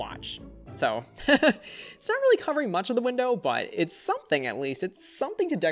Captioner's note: laughs